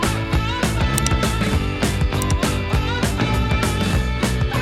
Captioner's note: clicking